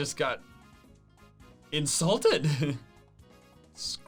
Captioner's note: laughs